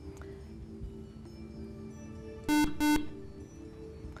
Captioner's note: buzzer